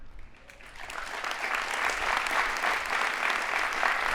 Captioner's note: audience applauding